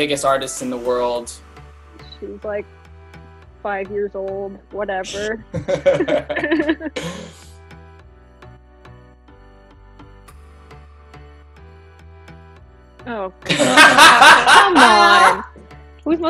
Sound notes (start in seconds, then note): 5.5 laughing; 8.1 soft upbeat music; 13.5 laughing